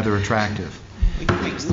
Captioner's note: laughter